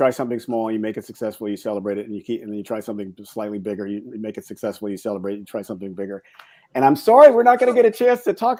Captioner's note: fast speech